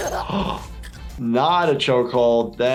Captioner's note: gasps; neck breaks